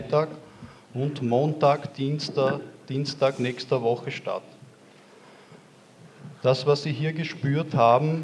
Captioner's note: announcement in german